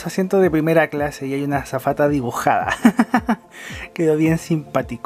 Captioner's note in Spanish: risas